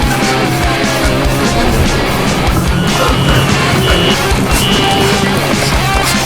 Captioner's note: heavy rock music; police sirens, tyres screeching, horns blasting